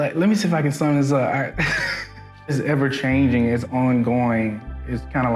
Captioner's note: laughs